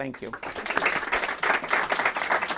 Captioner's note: applause